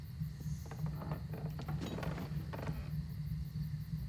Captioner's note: steps creaking